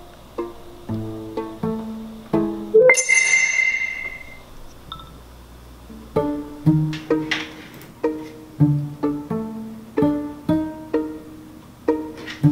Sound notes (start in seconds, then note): 2.7 FL Studio startup sound; 5.4 text notification